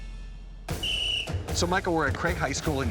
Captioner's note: whistle